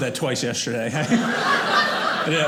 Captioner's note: audience laughing